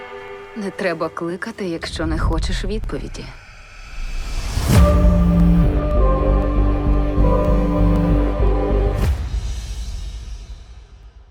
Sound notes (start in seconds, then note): 4.7 eerie music playing; 4.7 phone vibrating